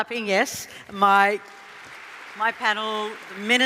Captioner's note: applause